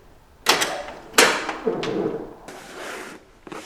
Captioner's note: storm Door opens